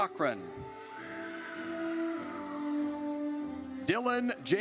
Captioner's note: audience cheers